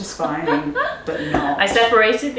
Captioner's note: laughing